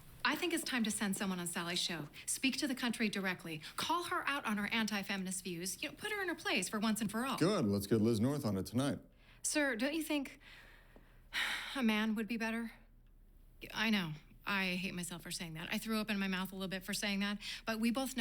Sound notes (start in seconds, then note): 10.6 sighs